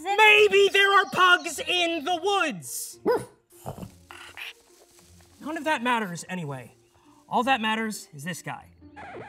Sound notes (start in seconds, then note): 3.0 pug barks and shuffles away